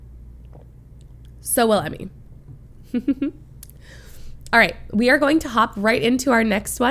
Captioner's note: laughs